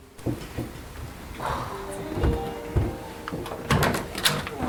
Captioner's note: sigh and walking to door; opening door